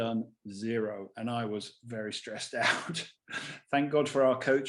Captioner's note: chuckles